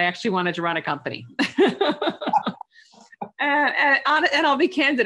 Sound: laughs

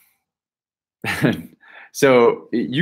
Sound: laughs

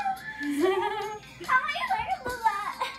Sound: laughing

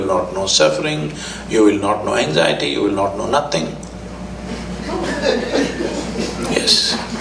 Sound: laughter

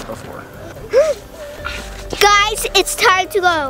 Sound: gasping

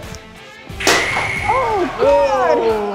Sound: bat colliding

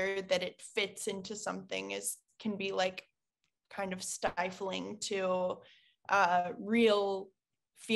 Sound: none

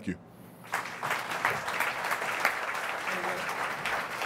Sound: audience applauds

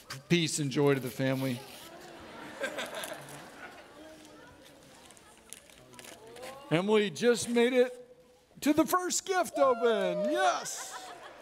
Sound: audience laughing

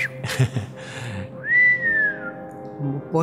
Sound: whistles

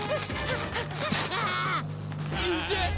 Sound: panting; screaming

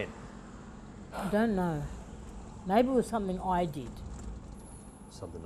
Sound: sighs; quietly

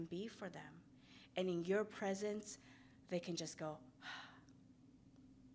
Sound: exhales

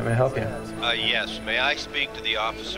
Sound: on phone

